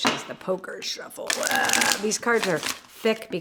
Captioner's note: cards shuffle